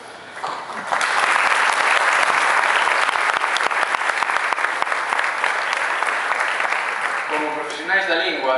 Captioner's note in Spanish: Aplausos